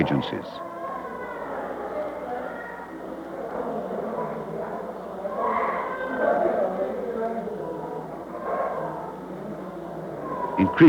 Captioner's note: loud noise from others in the clinic